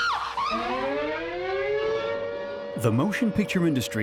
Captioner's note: sirens blaring